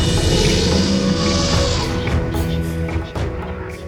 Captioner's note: elephant trumpets